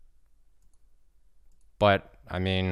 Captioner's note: mouse clicking